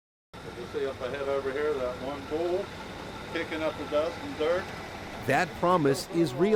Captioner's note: chatter